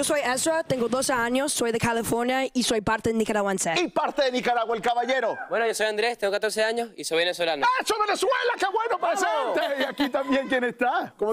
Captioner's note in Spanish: risas